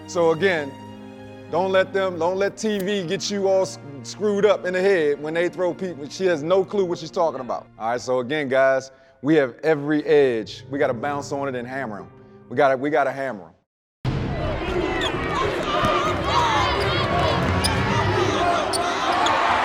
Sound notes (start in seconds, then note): 16.1 cheers and applause